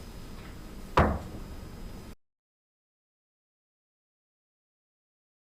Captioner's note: gavel banging softly